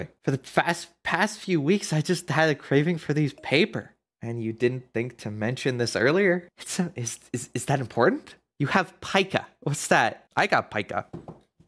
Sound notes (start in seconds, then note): none